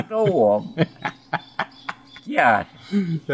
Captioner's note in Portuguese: risos